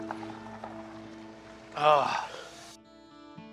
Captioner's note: sighs